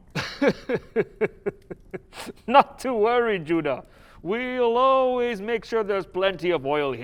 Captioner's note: laughs